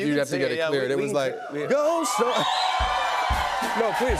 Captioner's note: cheers and applause